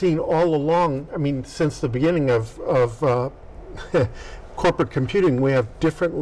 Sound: laughs

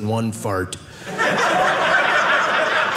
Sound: audience laughing

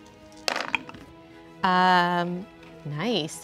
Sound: dice clatter

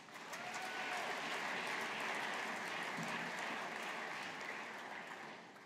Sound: audience applauding

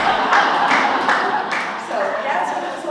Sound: laugh

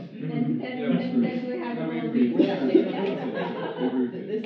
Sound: laughing

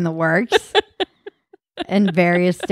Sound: laughing

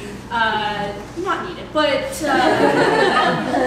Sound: laughter

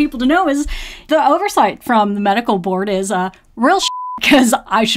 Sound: beep

